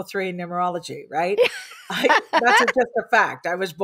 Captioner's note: laughs